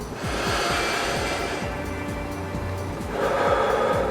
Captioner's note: breathes